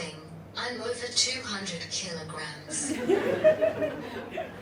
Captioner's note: audience laughs